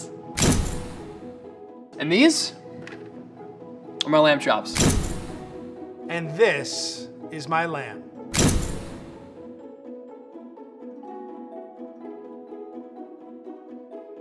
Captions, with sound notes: [booming sound] - And these are my lamb chops. [booming sound] - And this is my lamb. [booming sound]